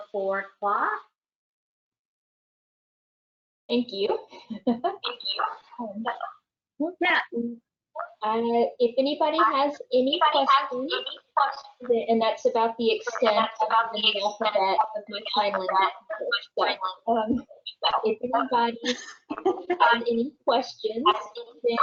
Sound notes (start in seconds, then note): 9.6 echoes; 18.8 laughter